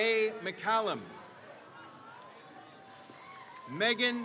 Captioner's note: crowd cheers